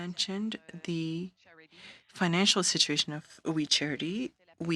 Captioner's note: speaking French